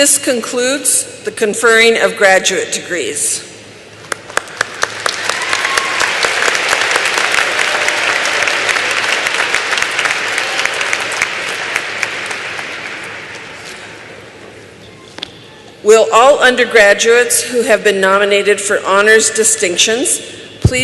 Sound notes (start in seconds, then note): 4.0 applause